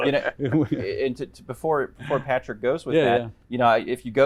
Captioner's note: laughter